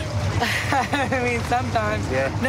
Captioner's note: laughs